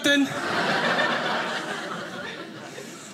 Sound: audience laughing

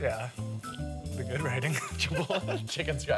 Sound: laughter

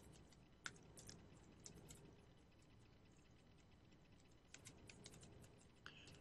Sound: soft typing

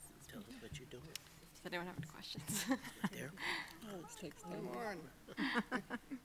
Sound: chuckles

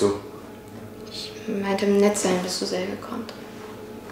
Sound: rhymes in German

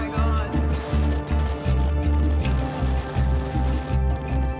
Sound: wind howling

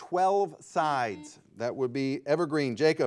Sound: buzzer beeping

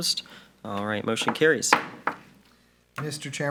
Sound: gavel taps

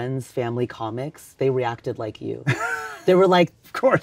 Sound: Tony laughs

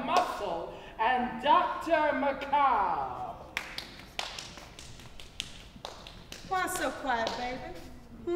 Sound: clapping; clapping

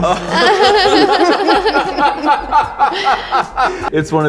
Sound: laughing

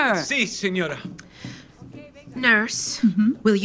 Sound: footsteps departing

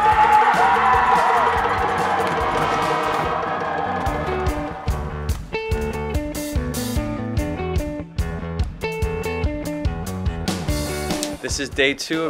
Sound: cheering

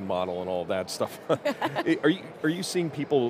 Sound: laughs

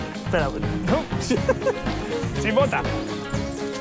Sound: laughs

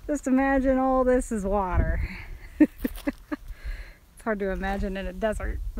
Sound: laughing

